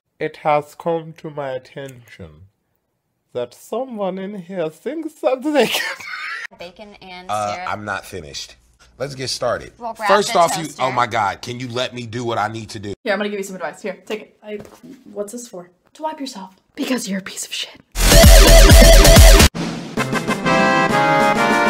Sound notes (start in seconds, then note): 5.6 laughs; 17.9 electronic music